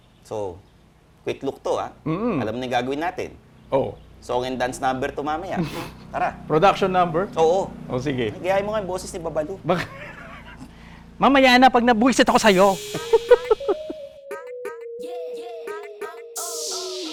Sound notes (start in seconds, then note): 5.6 chuckles; 9.6 laughs